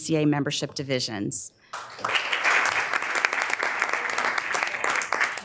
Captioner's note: members applauding